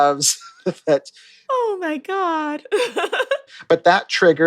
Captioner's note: laughter